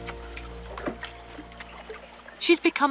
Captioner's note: rope creaking; wood clunking